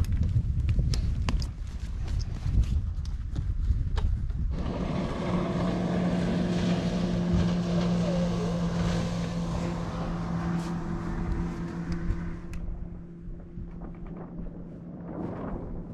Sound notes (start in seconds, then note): 5.3 boat engine roars